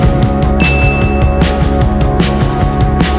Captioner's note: ding